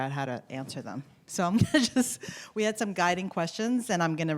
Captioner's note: laughter